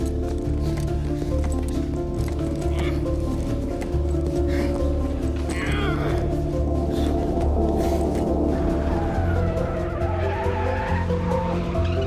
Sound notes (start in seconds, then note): 5.4 grunting; 8.2 tires squealing